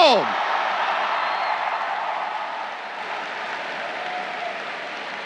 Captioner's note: crowd cheering